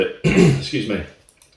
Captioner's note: coughs